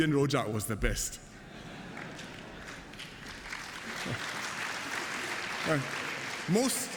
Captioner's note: laughter and applause